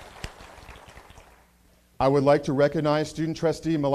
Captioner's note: applause